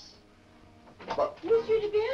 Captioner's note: door opens